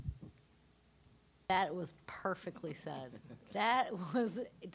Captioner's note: all chuckling